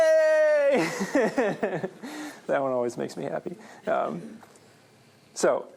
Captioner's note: laughter